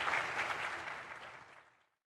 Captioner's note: applause